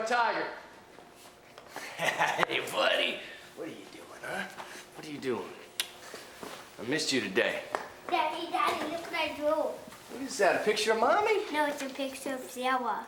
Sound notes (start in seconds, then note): 1.8 laughs